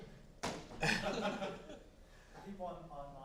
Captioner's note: chuckling